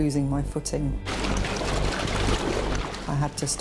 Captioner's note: water splashing